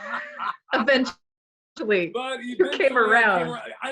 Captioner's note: laughs